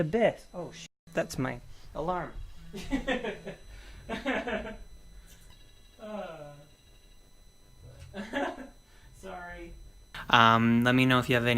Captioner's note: laughs